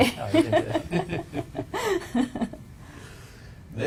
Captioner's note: panel chuckling